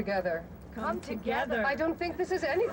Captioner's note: laughter